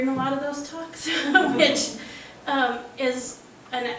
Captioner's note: chuckling